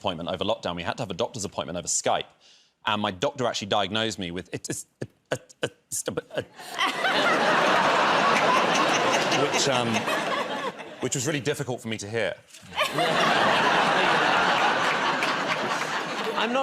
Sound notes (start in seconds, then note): 4.5 stammering; 6.3 laughter; 12.6 laughter